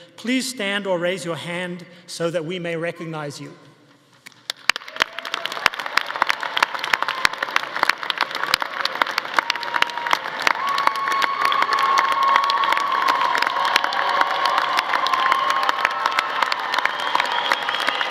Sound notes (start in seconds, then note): 4.3 audience applauding; 4.3 audience cheering